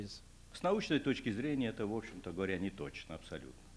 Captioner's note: non-english speech